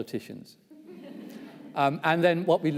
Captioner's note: audience laughs